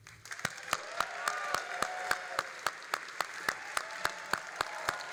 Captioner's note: all applauding and cheering